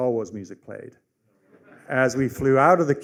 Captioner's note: laughter